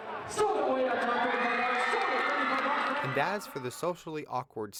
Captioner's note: crowd cheering